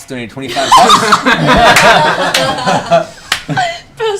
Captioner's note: laughter